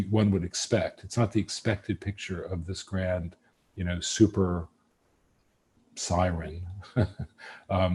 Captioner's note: laughs